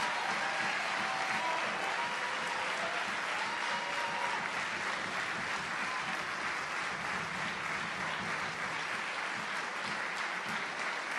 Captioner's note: applause